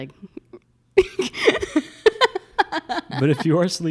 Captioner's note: laughs